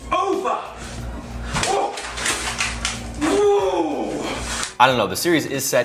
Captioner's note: bizarre, animalistic yelling